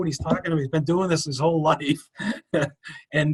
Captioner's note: chuckles